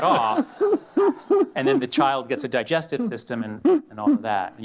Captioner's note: laughter